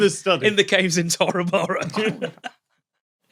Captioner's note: giggles